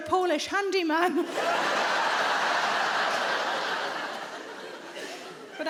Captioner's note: audience laughing